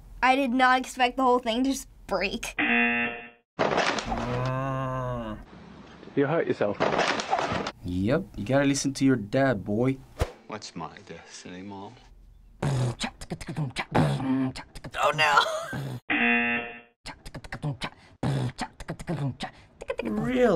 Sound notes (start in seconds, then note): 2.6 buzzer; 3.6 slide breaking; 4.4 low humming; 6.8 slide breaks; 12.6 beat boxing; 15.6 wheeze; 16.1 buzzer; 18.2 beat boxing continues